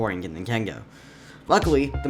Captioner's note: inhale